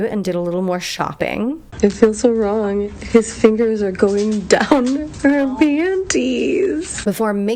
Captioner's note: hoots